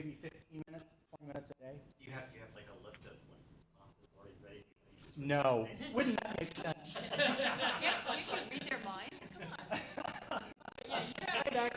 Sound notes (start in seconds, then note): 5.8 laughter